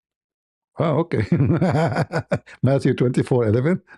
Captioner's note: ketawa